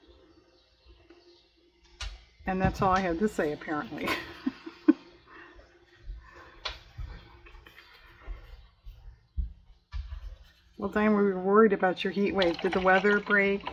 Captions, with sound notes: and that's all i have to say apparently (laughs) well, Diane, we were worried about your heat wave, did the weather break?